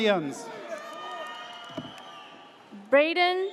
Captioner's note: audience cheers